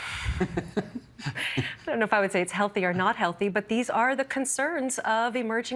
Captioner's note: laughter